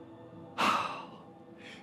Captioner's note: sigh